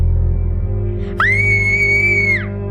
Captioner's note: Tiffany screaming